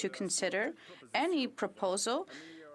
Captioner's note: speaking French